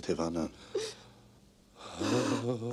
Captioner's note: waah